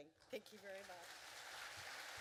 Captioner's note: applause